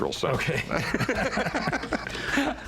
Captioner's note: laughter